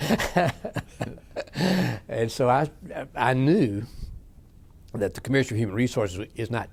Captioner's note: laughs